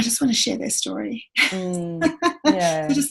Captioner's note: laughs